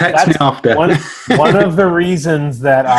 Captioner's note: chuckles